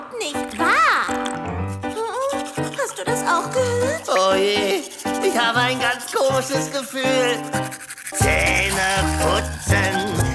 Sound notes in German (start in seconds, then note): 6.7 Zahnbürstgeräusche